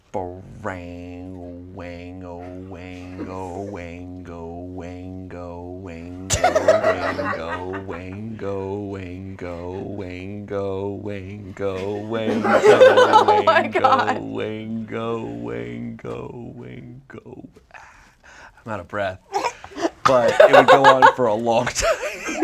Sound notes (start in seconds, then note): 0.2 speaking gibberish; 3.5 audience laughs; 21.8 audience laughs